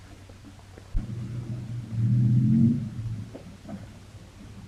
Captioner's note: engine rumbling